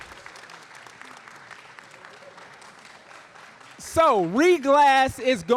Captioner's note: audience applauding